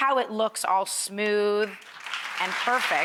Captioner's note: clapping